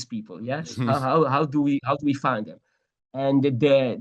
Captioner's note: laughs